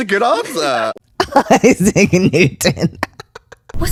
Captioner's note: laughter